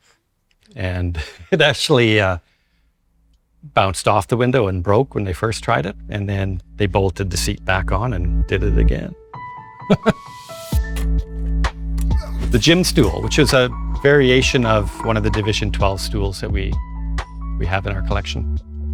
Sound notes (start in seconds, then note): 9.4 laughing; 9.4 soft music